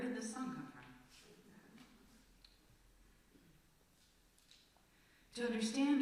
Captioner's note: silence